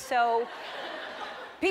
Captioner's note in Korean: 웃음